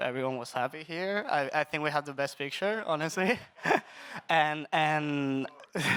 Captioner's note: laughs